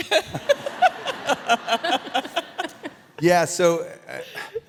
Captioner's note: all laughing